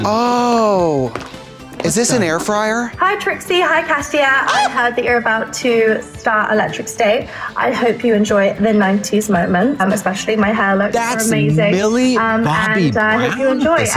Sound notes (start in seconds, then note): 4.4 Trixie squawks